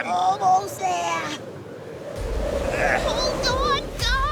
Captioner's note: wind whistles